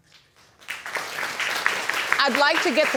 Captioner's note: audience clapping